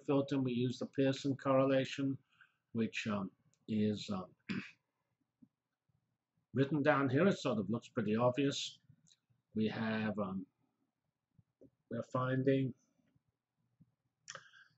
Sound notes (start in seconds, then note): 4.2 pause; 12.8 pause